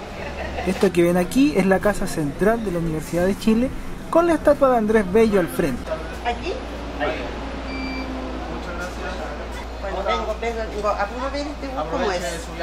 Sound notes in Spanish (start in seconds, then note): 7.7 Sonido de Tarjeta Bip